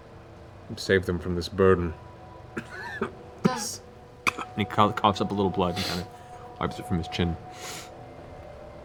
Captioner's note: coughs